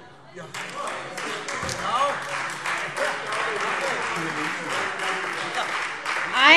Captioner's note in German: Heiterkeit und Beifall